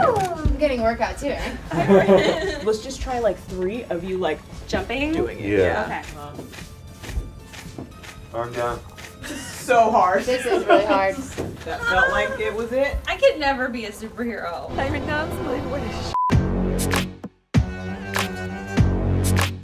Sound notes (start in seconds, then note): 8.5 camera clicking; 16.0 monotonous high pitch sound; 16.8 upbeat music